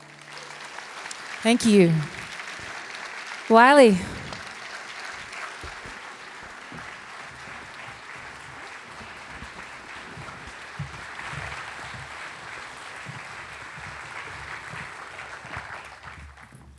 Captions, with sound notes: [applause] Thank you. Wiley. [applause continues]